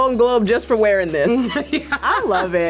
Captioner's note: laughs